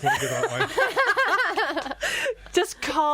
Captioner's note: all laughing